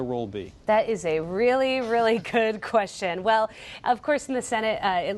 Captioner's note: laughter